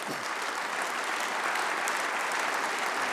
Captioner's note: applause